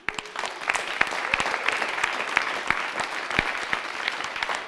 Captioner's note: audience clapping